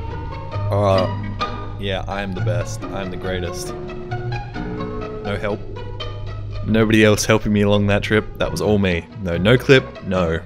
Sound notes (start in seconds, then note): none